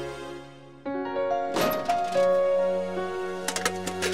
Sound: cupboard door opening

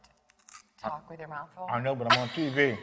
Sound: laughs

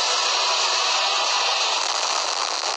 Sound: none

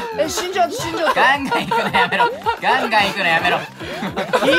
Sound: laughing

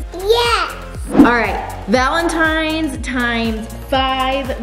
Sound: none

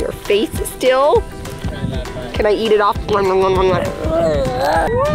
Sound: kisses

